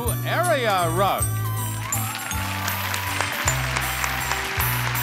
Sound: audience applauding

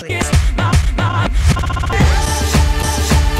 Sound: more stuttering

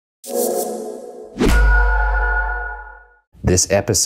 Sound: logo whooshing

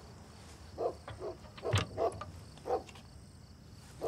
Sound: distant dog barking

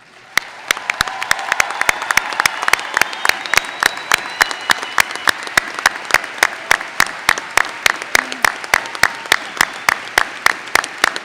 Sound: applause

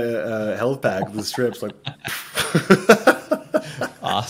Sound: chuckling

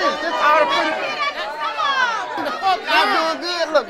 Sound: audience complaining

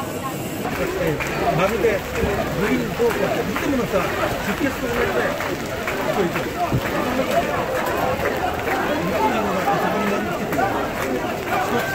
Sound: procession chanting and celebrating

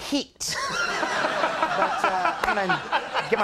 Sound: laughing

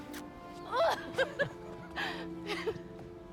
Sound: laughs

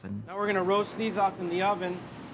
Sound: voiceover

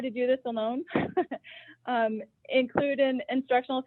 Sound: laughs

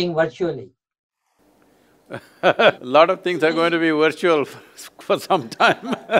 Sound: laughs

